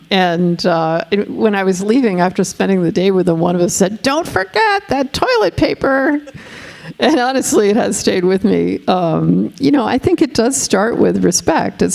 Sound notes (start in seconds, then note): 6.9 laughing